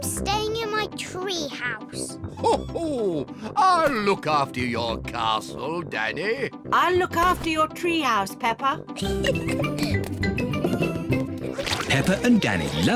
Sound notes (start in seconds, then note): 2.4 laughs; 9.0 giggles